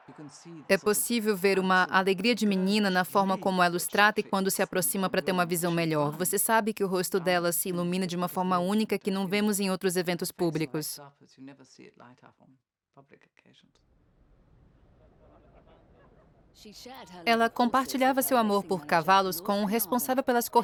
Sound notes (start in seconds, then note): 14.9 people chattering